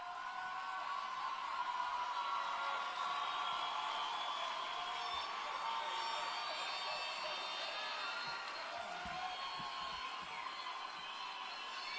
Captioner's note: applause and Cheering